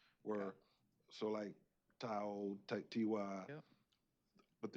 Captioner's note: speaking Native language